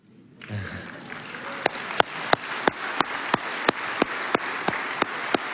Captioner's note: applause